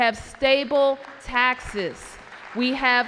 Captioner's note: applause